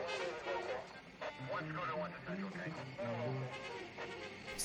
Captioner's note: police radio chattering